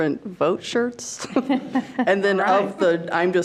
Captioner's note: board chuckling